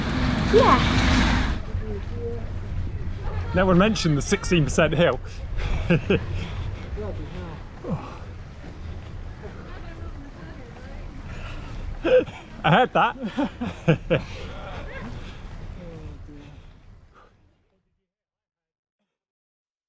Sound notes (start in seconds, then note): 5.6 laughs; 12.0 laughs